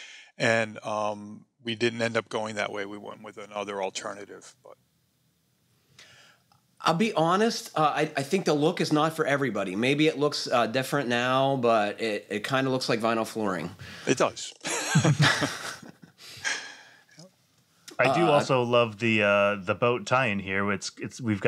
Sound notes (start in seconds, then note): 14.6 laughter